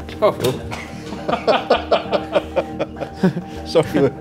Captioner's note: laughing; chuckling